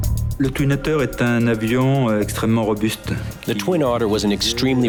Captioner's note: speaking in foreign language